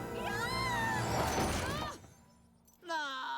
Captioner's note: crash